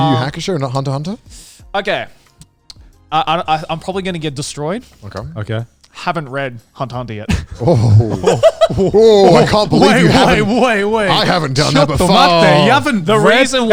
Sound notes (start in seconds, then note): 7.3 laughs